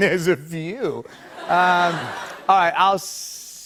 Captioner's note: laughter